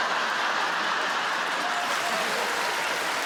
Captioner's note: audience laughs and cheers